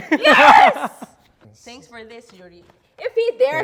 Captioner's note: laughs